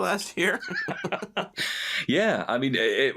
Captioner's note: laughing